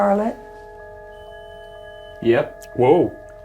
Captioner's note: EMF beeping